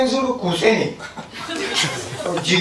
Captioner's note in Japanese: 会場 笑い声